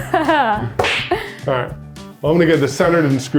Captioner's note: slaps tabletop